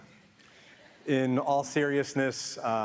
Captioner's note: audience laughing